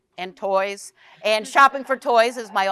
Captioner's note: audience chuckles